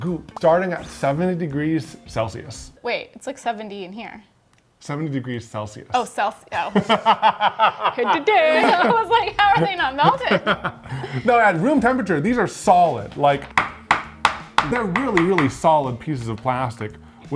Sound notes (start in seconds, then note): 6.6 laughing; 13.6 beads tapping